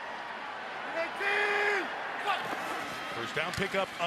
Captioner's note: football players yelling